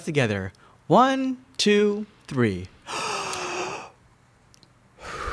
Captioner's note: inhaling and exhaling audibly